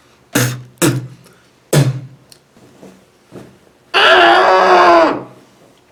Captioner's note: spits and screams